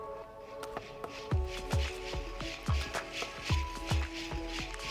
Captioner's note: dresses jingling